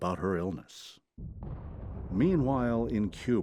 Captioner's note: cannons firing